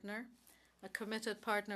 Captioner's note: speaking French